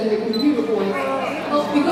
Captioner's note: frustrated murmurs